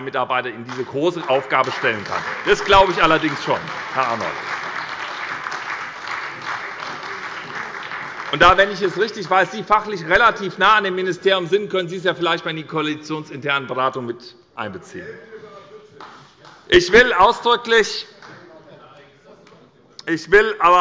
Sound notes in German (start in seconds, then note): 6.0 Beifall bei der SPD